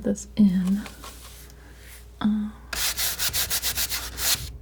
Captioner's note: scratching